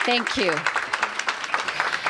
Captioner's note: applause